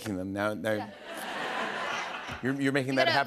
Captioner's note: laughter